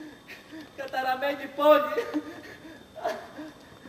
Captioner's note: λυγμός